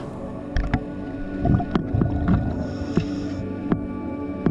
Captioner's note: underwater sounds